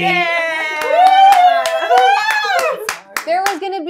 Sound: gamers cheering

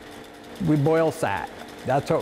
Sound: machinery humming

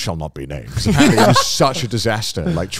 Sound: all laughing

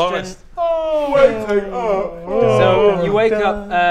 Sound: yawn; yawwwwn

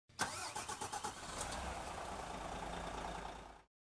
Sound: engine whirring

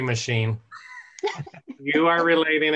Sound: laughter

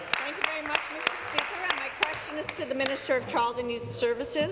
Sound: applause

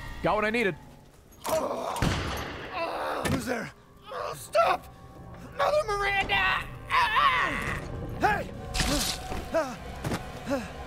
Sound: laughs

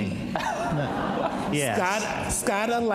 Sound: audience laughs

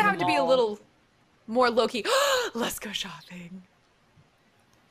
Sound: gasps

